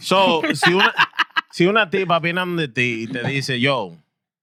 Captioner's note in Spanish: Hablando en idioma extranjero